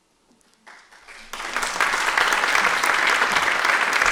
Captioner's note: applause